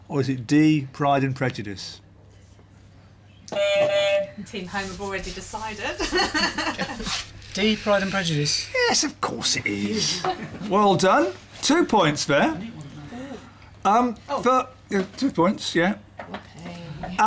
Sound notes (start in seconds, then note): 3.2 beep beep; 5.9 laughs